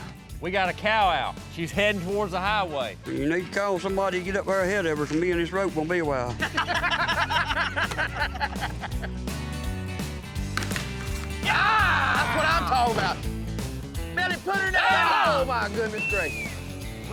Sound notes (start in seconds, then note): 6.4 laughter